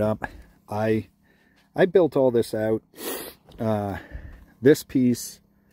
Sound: sniffs

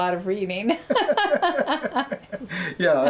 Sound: laughter

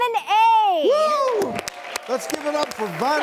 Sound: applause

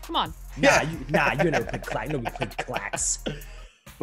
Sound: laugh

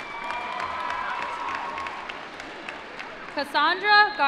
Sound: applause

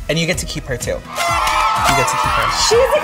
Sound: fanfare blares and cheering

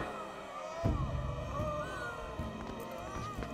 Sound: moaning

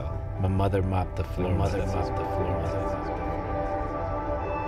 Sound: echoing

